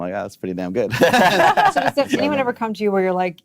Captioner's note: laughing